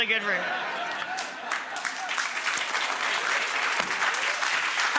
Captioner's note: applause